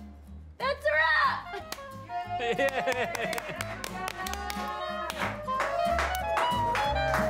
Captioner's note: laughs; all cheer